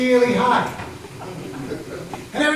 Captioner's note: laughter